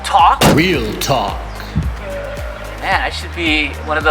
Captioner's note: voice over "real talk"